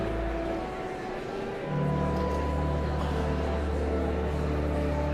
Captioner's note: joyful organ music continues; audience chattering continues